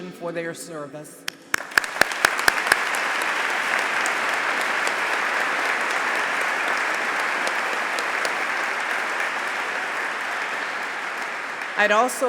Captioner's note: applause